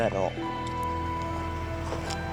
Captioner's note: beep